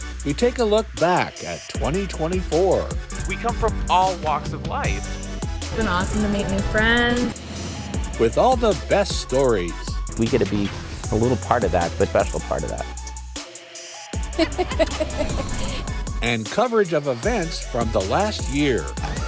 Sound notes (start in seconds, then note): 14.3 laughter